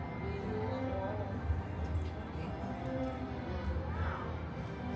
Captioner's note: none